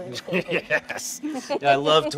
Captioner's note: laughs